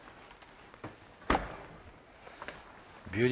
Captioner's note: oven door thuds